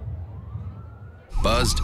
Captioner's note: sirens